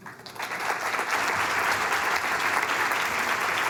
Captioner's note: applause